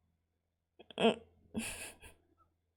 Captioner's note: chuckles